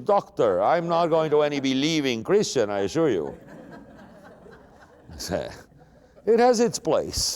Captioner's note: laughter